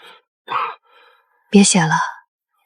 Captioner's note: cough